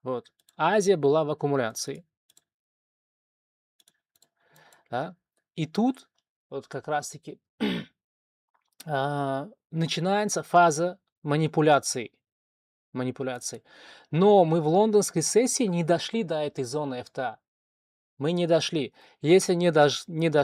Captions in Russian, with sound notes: Вот Азия была в аккумуляции, да? И тут вот как раз-таки [откашливается] начинается фаза манипуляции. Манипуляции. Но мы в лондонской сессии не дошли до этой зоны. Мы не дошли. Если не